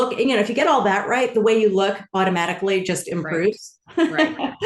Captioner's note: laughs